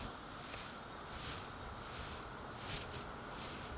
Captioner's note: stalks whooshing